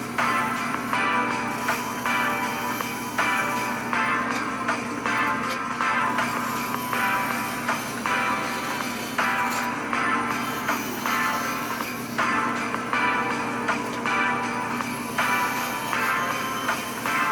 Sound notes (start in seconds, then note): 0.3 bandsaw buzzing; 7.2 bandsaw buzzing; 13.3 christmas music playing